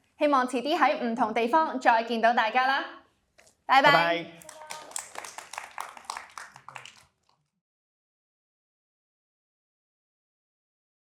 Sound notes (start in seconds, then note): 5.6 applause